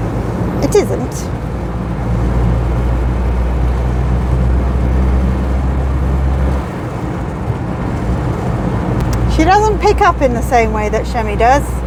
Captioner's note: engine noise